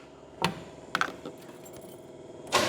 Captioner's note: metal Clanking